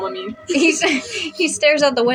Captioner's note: chuckle; snicker